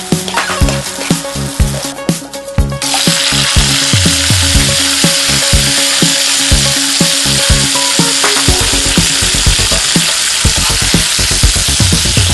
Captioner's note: stir-fry the cabbage, sizzling sound in the background